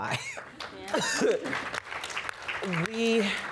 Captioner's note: applause